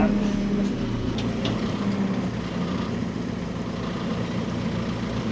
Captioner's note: machinery rumbling